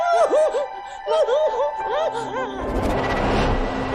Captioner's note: baby crying; sobs